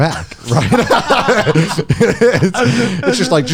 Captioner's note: laughs